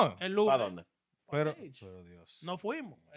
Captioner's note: speaking In Foreign Language